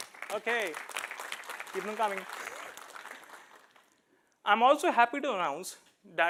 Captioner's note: applause